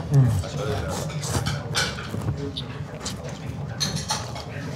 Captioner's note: both slurping